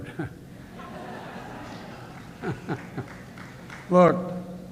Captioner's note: laughter